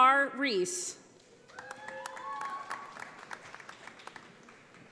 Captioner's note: audience applauding